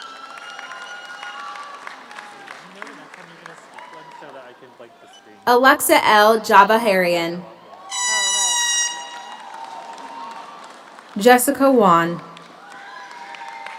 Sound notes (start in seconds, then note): 0.0 audience applauds; 0.0 audience cheers; 7.4 audience cheers; 7.8 horn toots